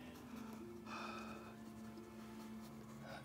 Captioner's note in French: soupirs